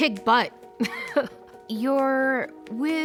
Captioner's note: chuckles